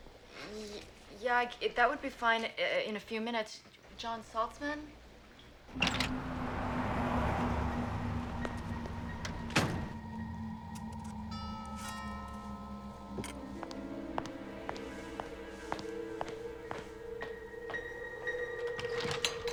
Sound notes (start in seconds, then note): 11.4 doorbell rings